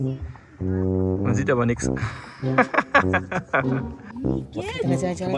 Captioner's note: laugh